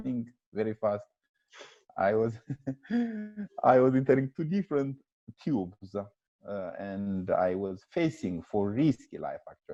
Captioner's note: he laughs